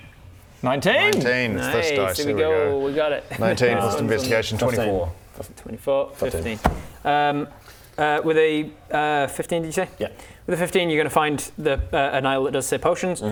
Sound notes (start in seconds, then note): none